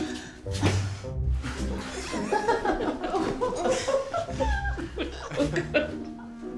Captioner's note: everyone laughing